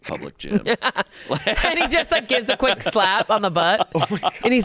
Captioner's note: laughs